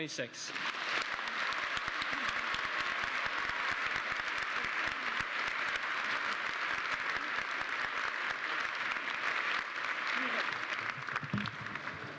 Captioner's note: applause